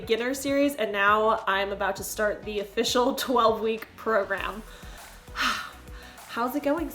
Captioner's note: exhales